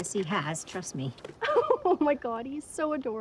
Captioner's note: speaker laughs